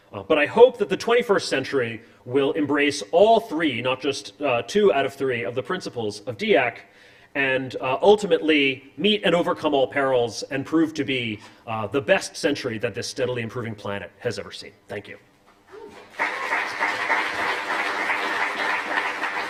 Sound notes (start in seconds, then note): 16.0 applause